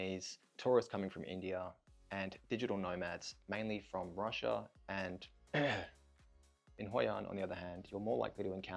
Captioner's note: cough